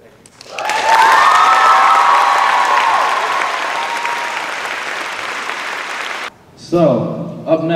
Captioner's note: cheers and applause